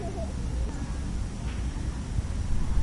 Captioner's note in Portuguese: sons de pessoas no parque